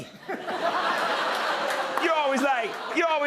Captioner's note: laughter